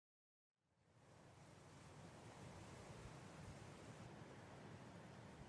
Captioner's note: gentle wind blowing